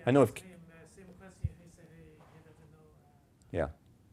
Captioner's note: participant faintly speaking